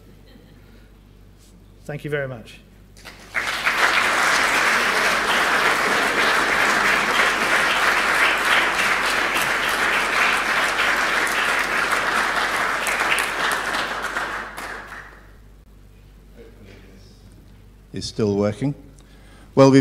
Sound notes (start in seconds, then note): 0.3 laugh; 3.0 applause